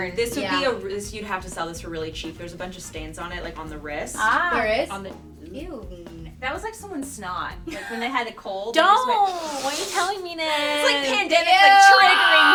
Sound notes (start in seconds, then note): 9.2 sniffs